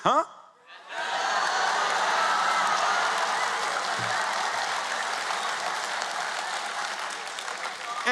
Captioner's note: cheers and Applause